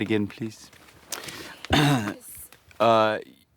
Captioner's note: clears throat